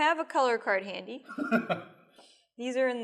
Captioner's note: laughs